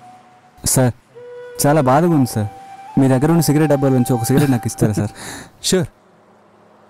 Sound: laughs

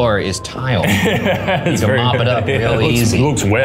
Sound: chuckles

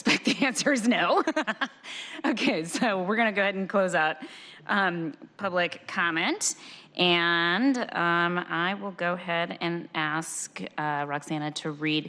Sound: laughter

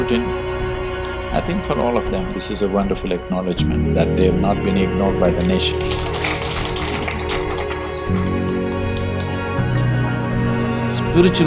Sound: applause

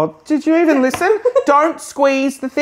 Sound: laughs

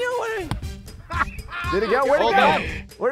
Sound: crew member putts and laughs

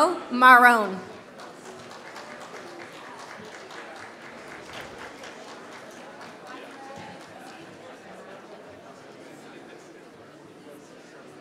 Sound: applause

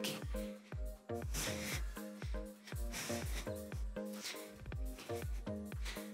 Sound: breathes; soft upbeat music

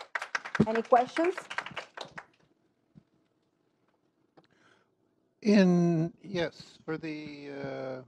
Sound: applause

